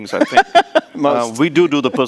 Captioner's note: laughs